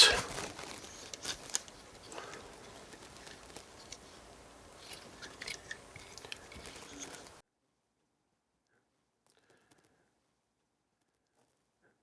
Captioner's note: squeaking sound